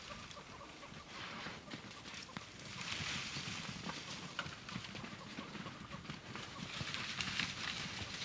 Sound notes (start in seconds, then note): 2.6 grass crunching; 2.6 hooves thudding